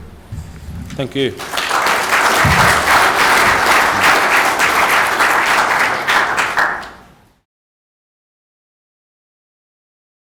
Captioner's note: clapping